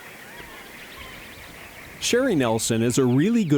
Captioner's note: birds chirping